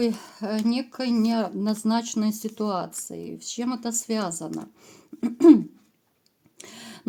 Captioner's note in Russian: откашливается